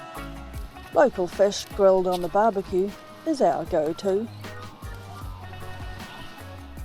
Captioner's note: waves crashing